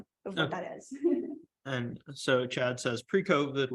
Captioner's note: laughter